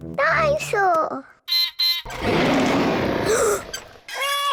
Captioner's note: beeps and roars; gasps and cries